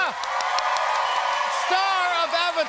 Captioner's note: cheers and applause